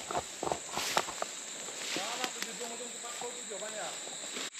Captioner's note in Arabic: حفيف الأوراق